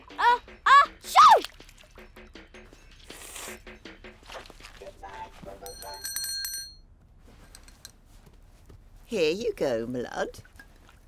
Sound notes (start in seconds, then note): 3.0 sniffles; 5.6 rings bell